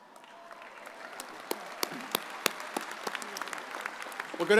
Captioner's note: audience applauds